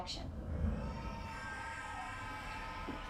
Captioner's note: faint sound of distorted babies cries